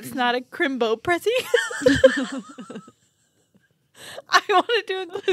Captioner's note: laughing